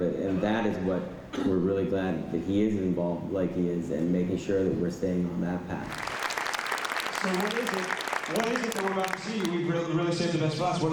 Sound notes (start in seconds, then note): 5.8 applause